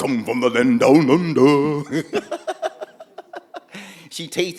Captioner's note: Bimwili laughing